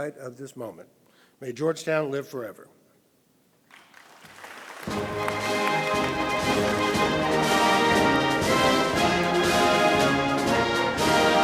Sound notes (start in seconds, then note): 3.6 audience applauding; 8.0 orchestral music